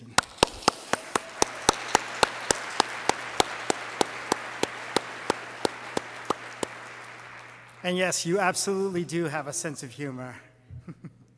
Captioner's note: applause